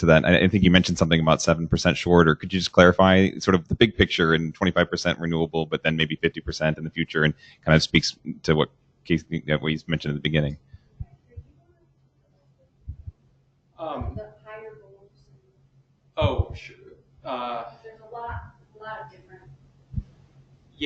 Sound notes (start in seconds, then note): 12.1 woman mumbling